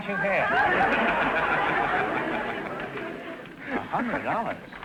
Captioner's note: audience laughter